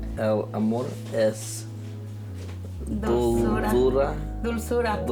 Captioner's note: both speak in foreign language